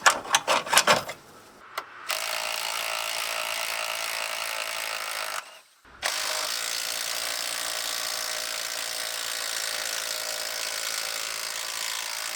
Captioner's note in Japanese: 作業音